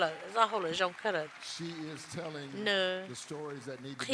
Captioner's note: cheers and applause